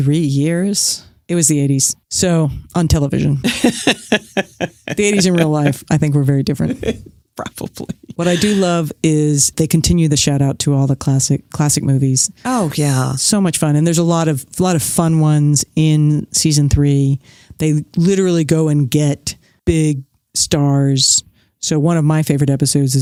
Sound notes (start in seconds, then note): 3.4 laughs